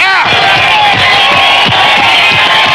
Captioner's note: crowd cheering